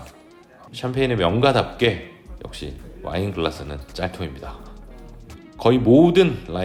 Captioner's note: haha